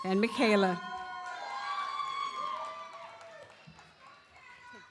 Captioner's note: audience cheers